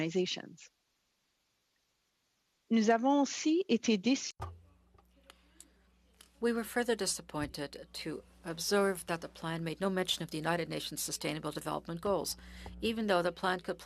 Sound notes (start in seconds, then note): 6.9 speaking French